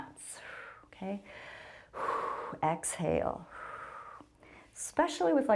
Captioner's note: exhales